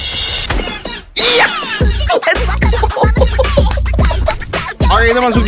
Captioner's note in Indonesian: tertawa